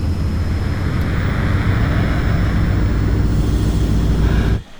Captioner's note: loud drone machine